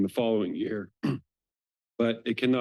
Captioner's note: clears throat